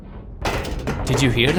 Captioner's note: loud metal banging